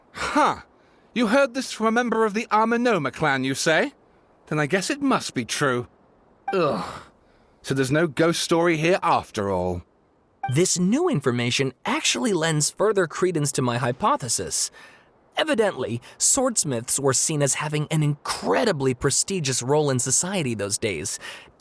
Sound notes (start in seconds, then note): 6.6 sigh